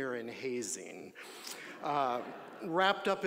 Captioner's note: audience laughing